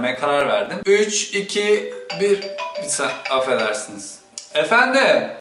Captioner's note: phone starts ringing